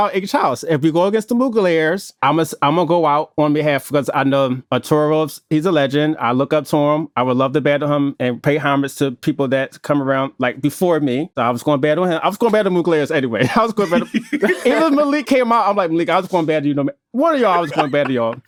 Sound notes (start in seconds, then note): 13.4 laughing; 17.3 laughs